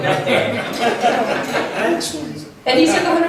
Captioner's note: laughs